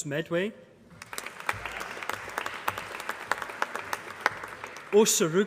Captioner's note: applause